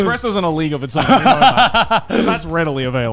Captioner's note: laughing